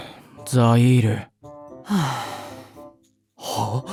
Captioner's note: deep sigh